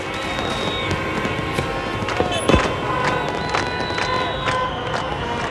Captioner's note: crowd cheering and cars honking